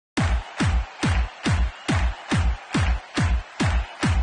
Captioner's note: applause